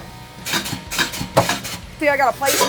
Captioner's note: machine clicks